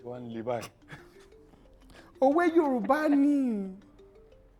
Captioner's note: laughs